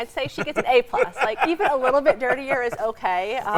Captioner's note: laughing